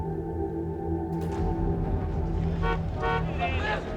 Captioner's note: car horn honking